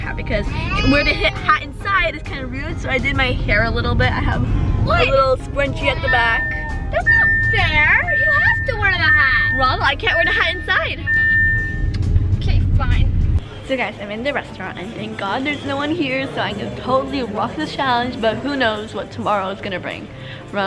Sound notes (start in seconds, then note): 10.9 beeping